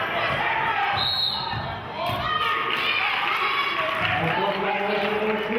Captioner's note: whistle blows; clapping